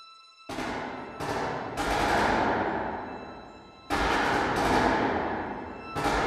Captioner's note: distant gun fires rapidly